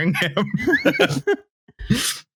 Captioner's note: laughter